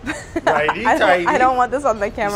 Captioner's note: laughing